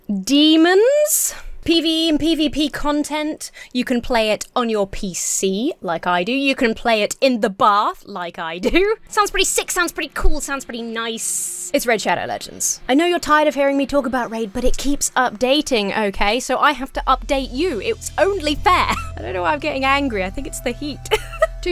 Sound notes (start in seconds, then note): 18.9 chuckles; 21.0 giggles